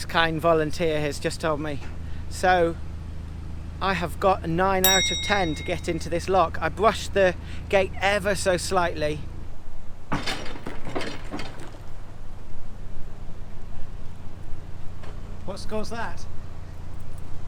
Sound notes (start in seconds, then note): 10.1 bang